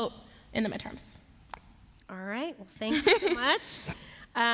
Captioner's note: laughter